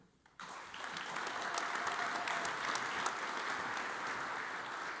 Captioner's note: audience applauds